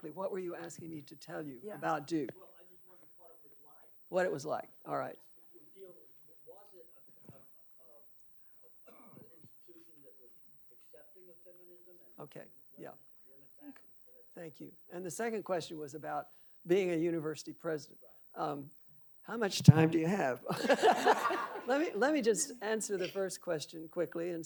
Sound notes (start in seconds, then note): 20.4 laughing